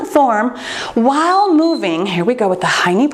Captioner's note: timer beeps